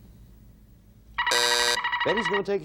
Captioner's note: buzzer sounding